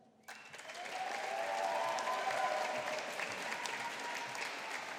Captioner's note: audience applauding